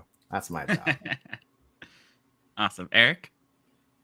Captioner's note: laughs